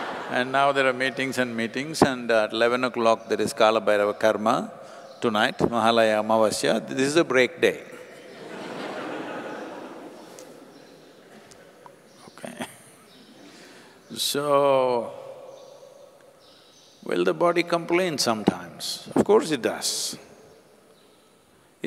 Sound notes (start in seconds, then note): 10.9 laughter; 12.9 laughs